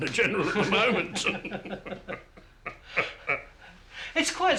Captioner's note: both men laugh